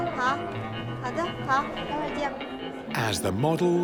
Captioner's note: speaking Tibetan